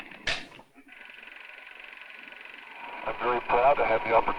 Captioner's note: projector whirring